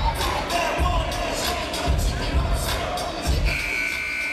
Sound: chatter; hip hop music

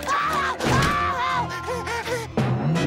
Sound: screaming; panting

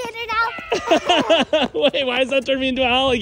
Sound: dad laughing

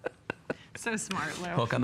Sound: laughter

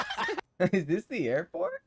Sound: laughing

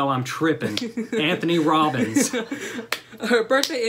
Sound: laughter

